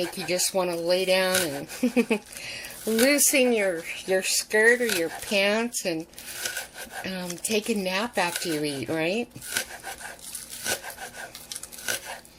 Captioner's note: giggles